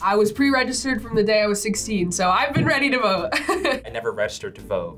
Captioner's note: laughs